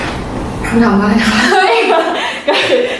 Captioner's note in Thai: เสียงหัวเราะ